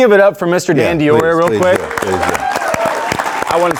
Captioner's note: audience applauding